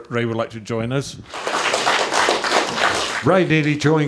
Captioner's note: applause